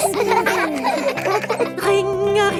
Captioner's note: giggling